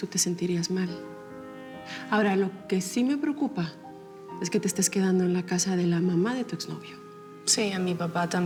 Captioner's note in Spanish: none